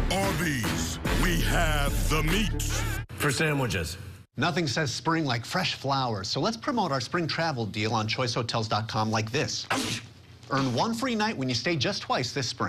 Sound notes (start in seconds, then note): 9.6 sneezes